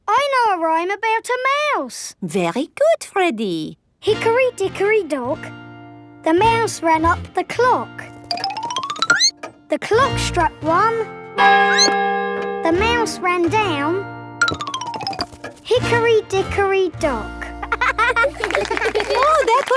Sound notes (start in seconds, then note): 11.6 squeaks; 11.6 clock chimes; 17.6 laughing